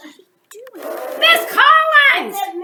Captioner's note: blows